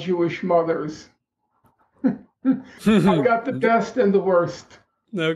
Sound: chuckle

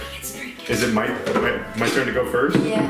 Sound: whispers

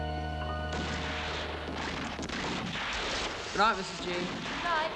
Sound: gunfire on TV

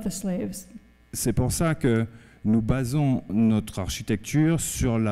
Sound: speaking french

